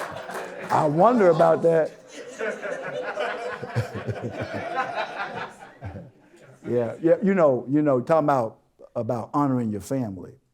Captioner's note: audience Laughter; laughter